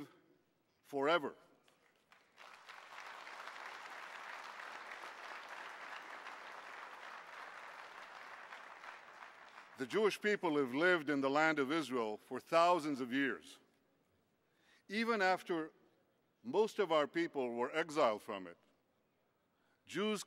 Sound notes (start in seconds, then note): 1.6 clapping